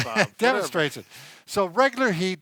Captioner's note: laughing